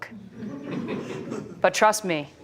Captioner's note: laughter